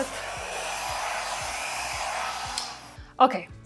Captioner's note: blower whooshing